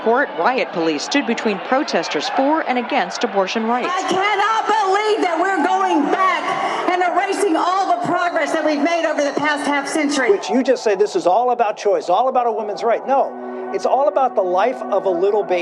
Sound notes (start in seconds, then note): 4.0 over a microphone, yelling